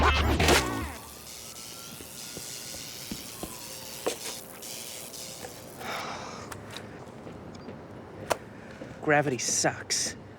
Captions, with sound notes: (Splats) (Footsteps approach) (Sighs) GRAVITY SUCKS.